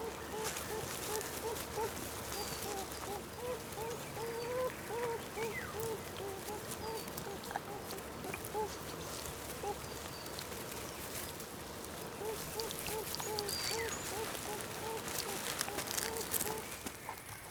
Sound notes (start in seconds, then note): 0.2 kits whining; 7.0 rustling